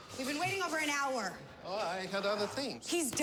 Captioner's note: russian accent